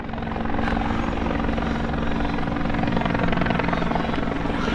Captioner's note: helicopter whirring